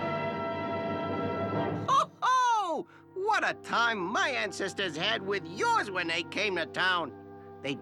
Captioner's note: laughs